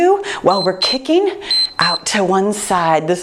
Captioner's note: timer beeps